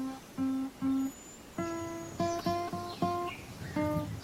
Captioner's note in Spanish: Canto de pájaros